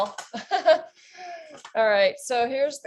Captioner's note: chuckles